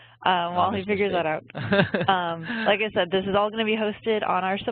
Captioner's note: laughs